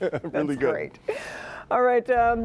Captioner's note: laughter